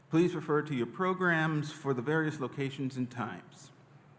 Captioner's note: none